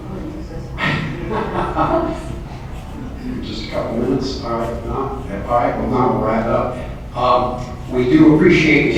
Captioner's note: laughs